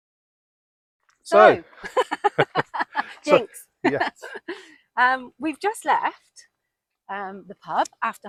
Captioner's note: laughter